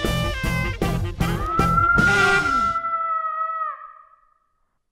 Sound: distant yelling

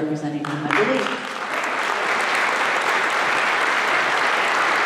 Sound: applause

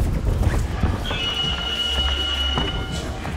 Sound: bell ringing

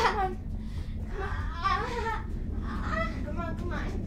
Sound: Morgan groaning

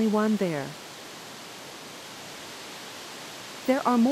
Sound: rushing Water

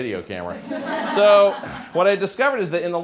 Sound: laughter

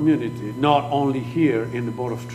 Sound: speaking foreign language

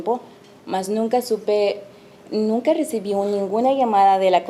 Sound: speaking Spanish

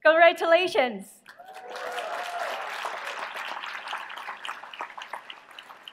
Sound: applause

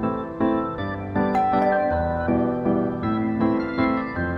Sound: door bell rings

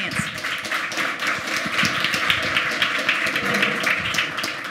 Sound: applause

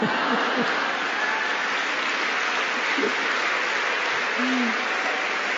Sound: laughter; applause

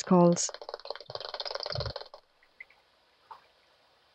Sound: sound of echolocation clicks from a bat detector

